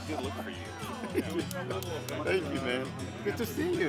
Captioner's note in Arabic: يضحك